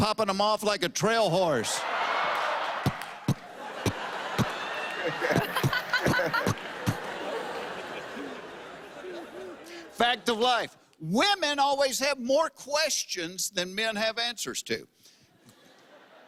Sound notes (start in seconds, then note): 2.5 popping; 3.4 laughter; 6.9 popping stops